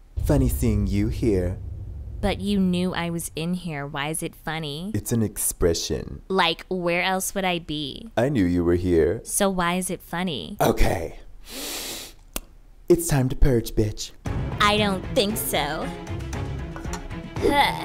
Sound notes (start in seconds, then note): 11.4 long sniff; 16.1 dramatic music